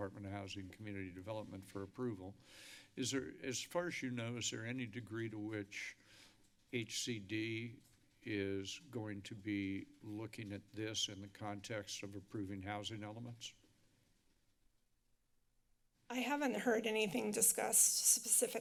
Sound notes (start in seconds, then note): 13.8 silence